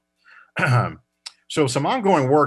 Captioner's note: coughs